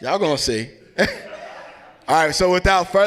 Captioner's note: laugh